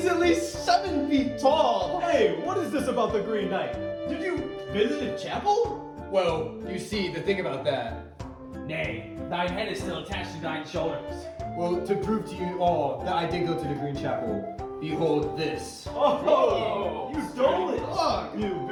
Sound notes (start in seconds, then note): 16.0 cries of astonishment